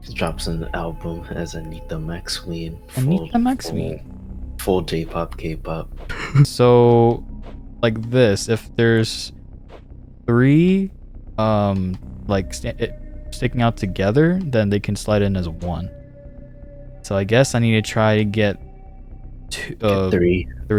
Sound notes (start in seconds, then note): 5.8 shudders